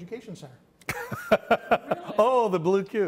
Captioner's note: laughter